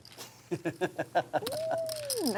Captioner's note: laughing